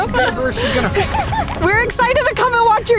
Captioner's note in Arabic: ضحك